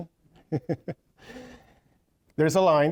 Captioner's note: chuckling